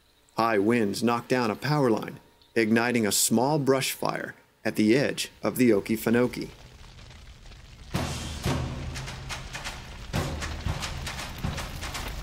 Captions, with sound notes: High winds knocked down a power line, igniting a small brushfire at the edge of the Okefenokee. (Buring grass sounds) (Energetic music)